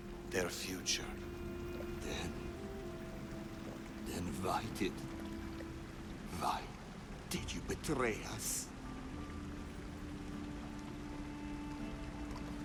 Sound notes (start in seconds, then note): none